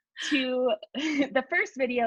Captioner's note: chuckles